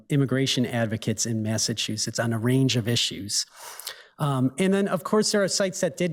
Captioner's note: none